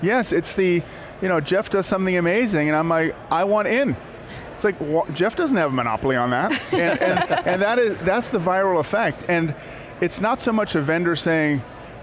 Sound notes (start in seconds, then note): 6.5 laughing